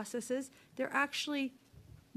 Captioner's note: speaking French